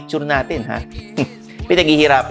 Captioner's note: giggles